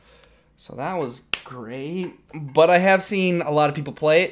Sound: clap

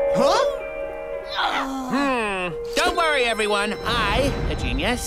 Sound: grunting

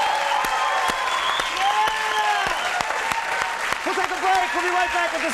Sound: audience cheering and applauding

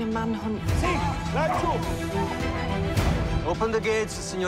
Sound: man yelling

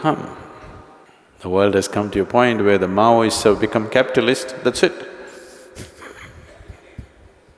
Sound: laughs

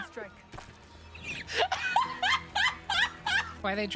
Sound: quiet Laugh; laughter

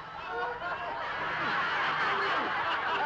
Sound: laughter

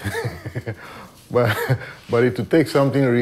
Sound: laughs

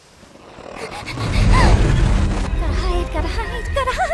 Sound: Pomni panting

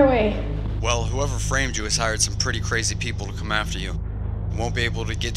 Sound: jack on phone

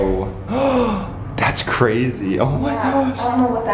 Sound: inhales

